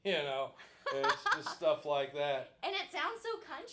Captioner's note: laughing